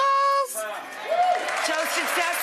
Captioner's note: crowd cheering